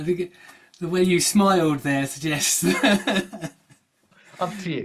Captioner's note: chuckles